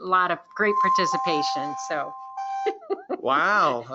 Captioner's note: tones chiming